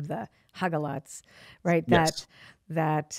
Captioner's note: speaking in foreign language